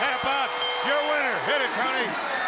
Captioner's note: bell ringing